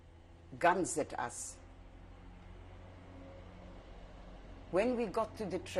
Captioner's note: pauses for 3 seconds